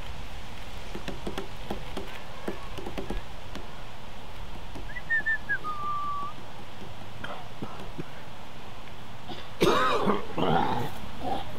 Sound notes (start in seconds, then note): 4.8 whistling; 7.2 coughing in background; 9.3 coughing intensifies